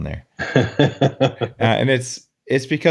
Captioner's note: light laughs